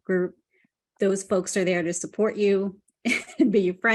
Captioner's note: chuckles